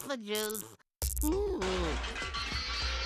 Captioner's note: groaning